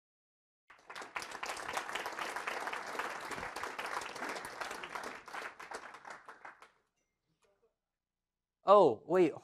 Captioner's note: applause